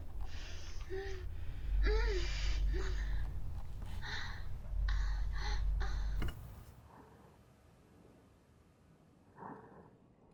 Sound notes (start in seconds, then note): 3.8 breathing